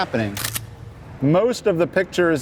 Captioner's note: camera snapping